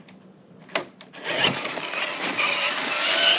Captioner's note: vroom!